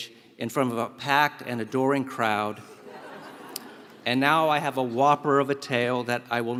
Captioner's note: laugh